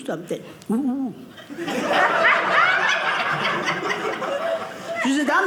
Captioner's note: audience laughing